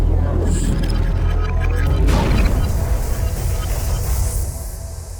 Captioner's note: main thrusters ramping up; main thrusters firing